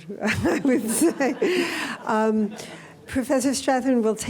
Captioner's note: laughter